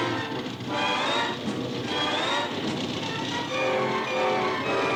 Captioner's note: engine rumbling; dramatic orchestral music continues